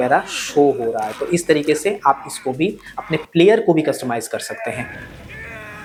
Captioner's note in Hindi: नाक से की जाने वाली आवाज़